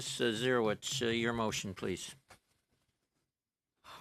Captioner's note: speaking in French